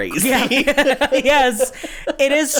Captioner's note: laughs